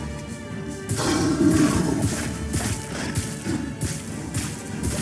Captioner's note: monster growling